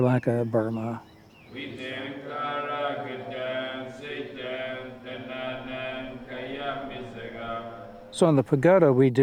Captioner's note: chanting